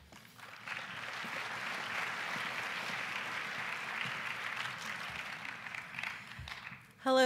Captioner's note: applause